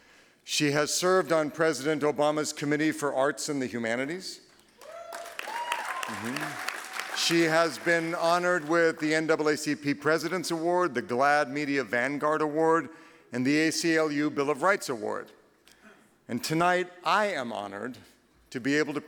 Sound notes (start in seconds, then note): 4.5 clapping